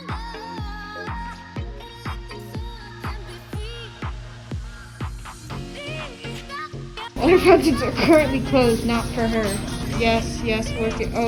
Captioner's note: very monotone